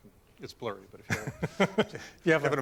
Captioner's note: laughter